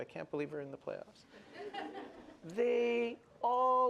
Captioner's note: laughter